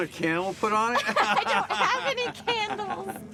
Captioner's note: both laughing